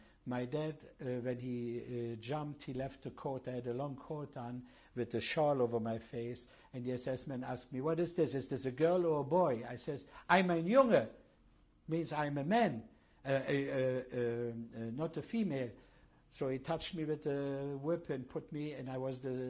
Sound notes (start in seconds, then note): 10.5 speaking german